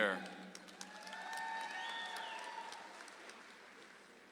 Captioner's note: audience applauds